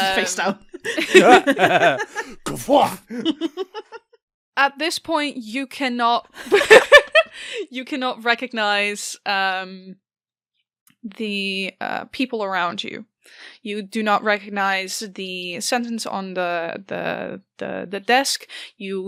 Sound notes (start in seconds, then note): 0.0 chaotic stumbling sound effects; 0.2 laughter; 4.6 laughing; 6.9 laughing